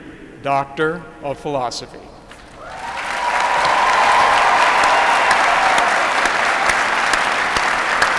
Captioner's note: applause